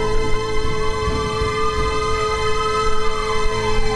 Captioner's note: siren wailing